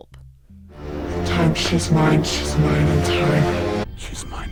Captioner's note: deep, demonic voice